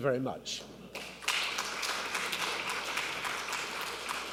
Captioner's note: applause